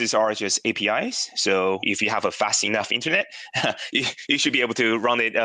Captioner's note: laughs